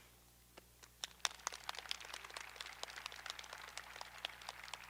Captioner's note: graduates applauding